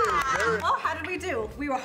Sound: group laughs and claps

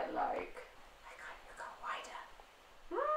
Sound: whispering

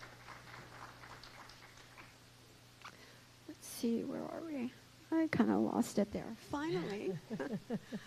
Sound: applause

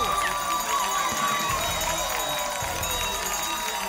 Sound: applause and cheering

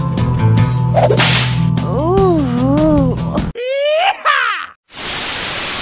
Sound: whip crack! sexy woman moan. YEEEEHAW!; static sound

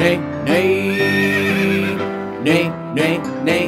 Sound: horse neighing

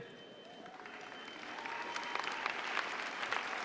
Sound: applause

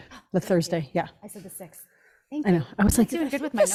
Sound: gasps

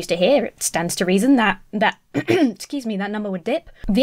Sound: clears throat

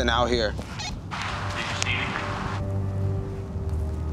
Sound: radio

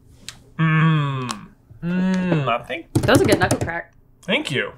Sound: crrrRACK

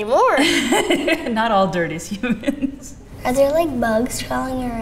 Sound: laughing

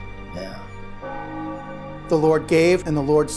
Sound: bell chimes

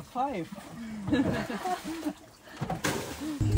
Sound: laughing

